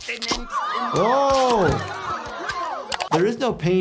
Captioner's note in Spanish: multitud jadeando